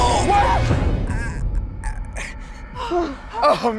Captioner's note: groaning